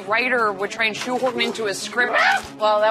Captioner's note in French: pousse un cri